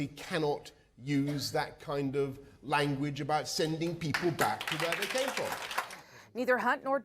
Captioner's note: applause